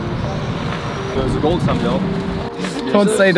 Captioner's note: speaks faintly